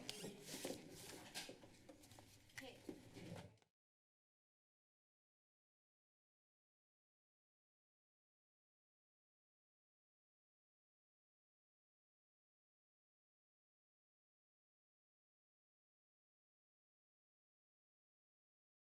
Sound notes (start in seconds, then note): 3.7 silence